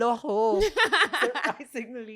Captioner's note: laughs